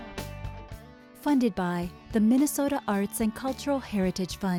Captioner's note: voiceover